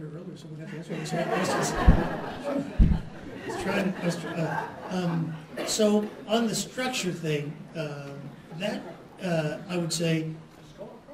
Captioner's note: laughter